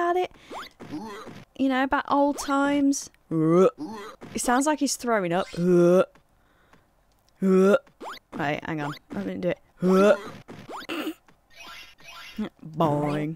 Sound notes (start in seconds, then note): 10.2 makes a retching noise; 10.8 snickers